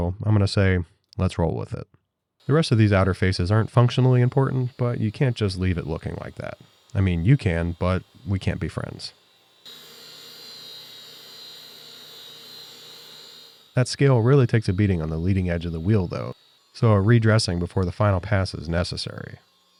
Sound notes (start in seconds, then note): 9.6 machinery whirring